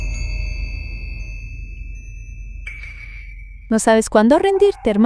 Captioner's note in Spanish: campana